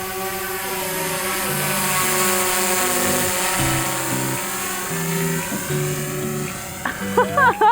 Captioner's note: drone buzzing